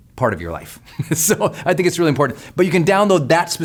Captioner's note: laughs